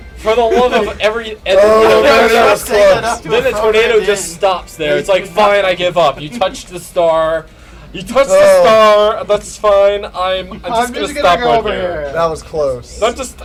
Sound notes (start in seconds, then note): 7.9 in a camp voice